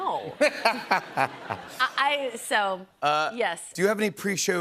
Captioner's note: laughter